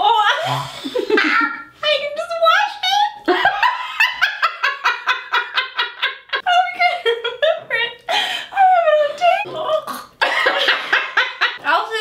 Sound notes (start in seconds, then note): 0.0 laughs; 1.0 cackles; 3.6 laughs; 10.9 chokes